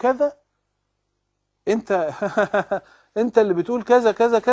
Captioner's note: laughs